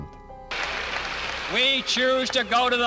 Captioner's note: crowd clapping